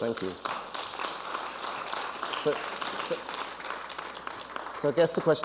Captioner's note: audience applauding